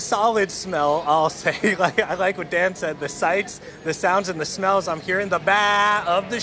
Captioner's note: laughter